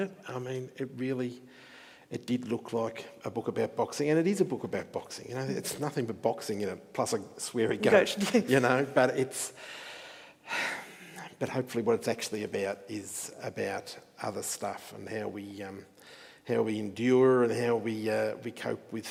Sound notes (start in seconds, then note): 10.5 sighs